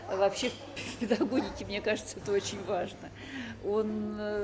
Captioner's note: laughs